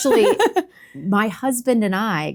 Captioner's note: laughs